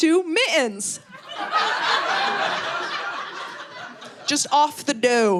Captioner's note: audience laughing